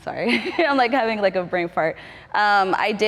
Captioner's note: laughter